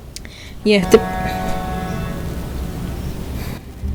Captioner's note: truck's horn